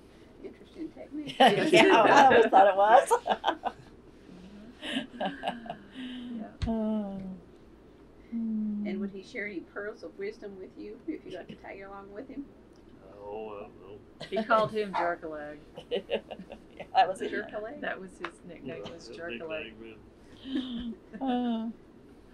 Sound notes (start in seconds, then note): 4.6 laughter; 20.4 laughter